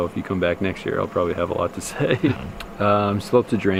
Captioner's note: laughs